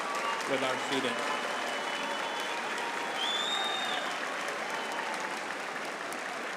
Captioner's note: applause